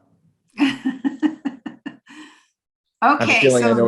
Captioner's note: laughs